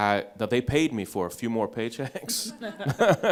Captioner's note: laughs